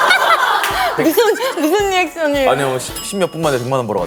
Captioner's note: hahaha